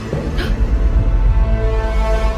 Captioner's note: gasp